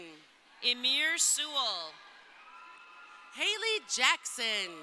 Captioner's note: crowd cheering